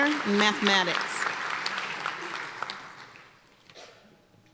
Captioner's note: applause